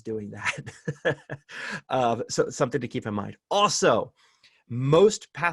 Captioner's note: laughter